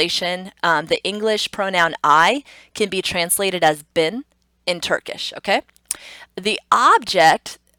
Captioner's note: tongue clicks